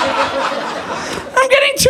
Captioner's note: audience laughing